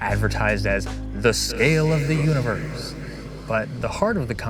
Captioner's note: echoing